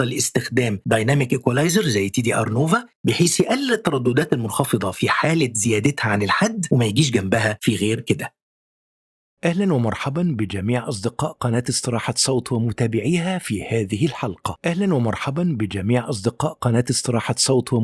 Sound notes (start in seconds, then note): 10.3 arabic VO